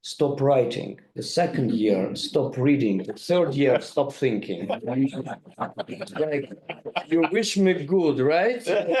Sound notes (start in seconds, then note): 5.0 group laughing; 8.8 group laughing